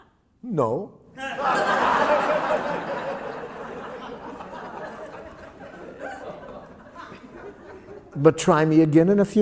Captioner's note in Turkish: Gülüşmeler